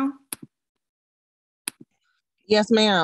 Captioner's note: clicking sound